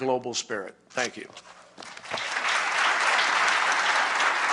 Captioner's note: applause